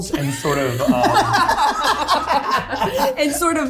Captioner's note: cast laughing